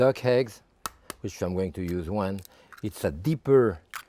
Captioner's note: egg tapping